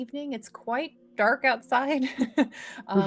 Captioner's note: chuckles